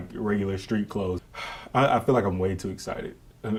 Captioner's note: sighs